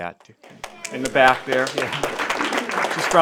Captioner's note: applause